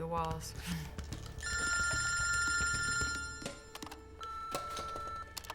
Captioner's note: phone ringing